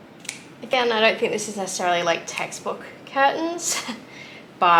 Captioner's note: laughs